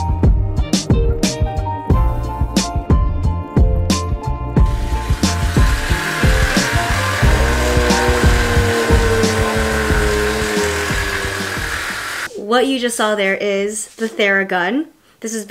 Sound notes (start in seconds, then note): 4.7 whirring; 7.4 whirring and groaning